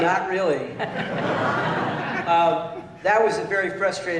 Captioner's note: laughter